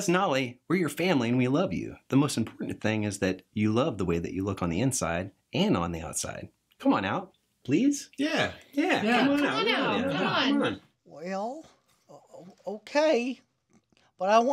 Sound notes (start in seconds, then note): 8.2 group sounds of agreement